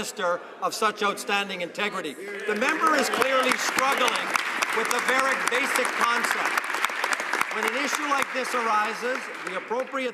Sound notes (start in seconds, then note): 1.3 some Applause